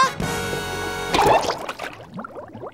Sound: popping

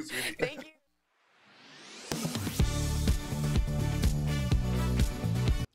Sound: laughter

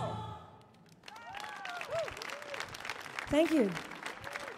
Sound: audience clapping; audience cheering

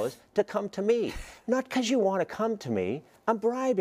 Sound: laugh

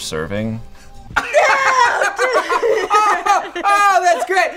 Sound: laughs

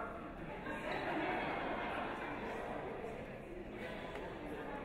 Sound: audience laughs

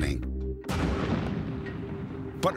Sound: explosion

